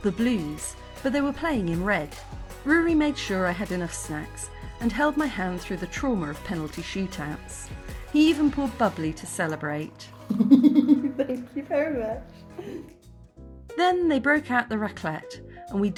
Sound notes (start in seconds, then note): 10.2 laughing; 10.4 fizzing